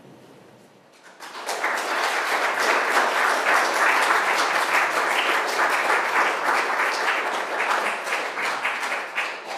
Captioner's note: applause